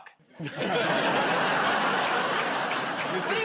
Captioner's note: laughter